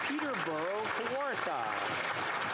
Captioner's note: applause